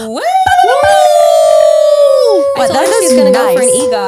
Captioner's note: cheering